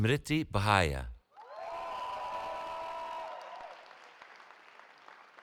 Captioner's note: cheering